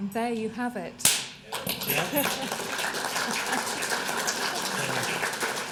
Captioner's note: applause